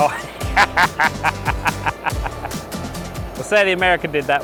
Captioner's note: laughing